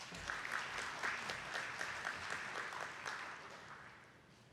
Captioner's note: attendees clapping